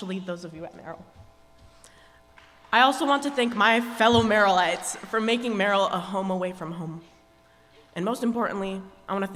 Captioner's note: applause